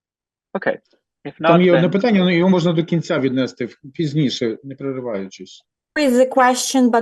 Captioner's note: non-english speech